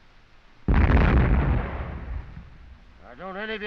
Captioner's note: explosions continue